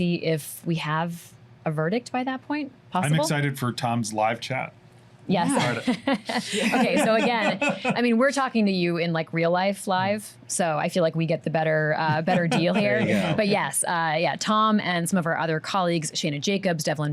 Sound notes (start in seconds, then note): 5.4 laughs